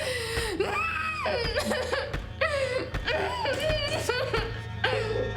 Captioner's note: dramatic music; Ema crying; dramatic music